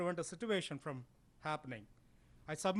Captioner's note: big Breath